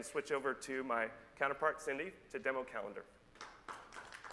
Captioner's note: applause